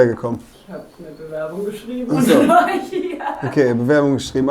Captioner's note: lacht